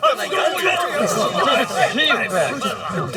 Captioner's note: wild dogs barking